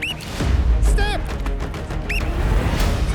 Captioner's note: whistle trills